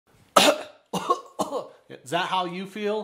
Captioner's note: coughs